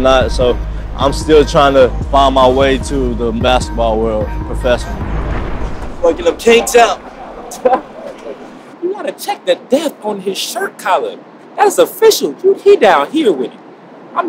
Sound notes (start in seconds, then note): 6.9 laughing